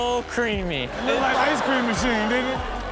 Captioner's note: audience laughs